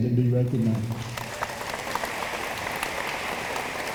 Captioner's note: room applauds